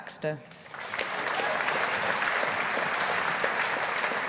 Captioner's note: audience applauding